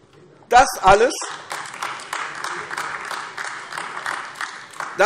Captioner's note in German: Beifall AfD